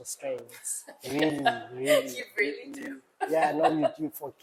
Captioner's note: laughs